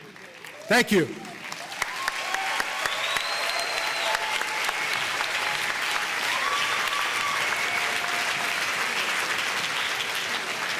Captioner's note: audience applause